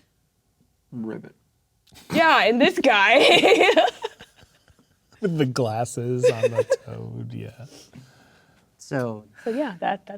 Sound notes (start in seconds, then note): 3.1 laughing; 6.2 laughing